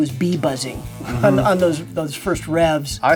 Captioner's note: bee buzzes